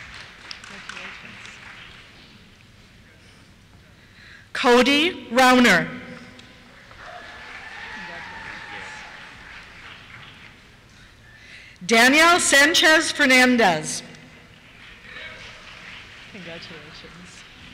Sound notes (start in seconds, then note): 0.0 applause; 6.8 cheers; 8.6 voiceover; 14.4 applause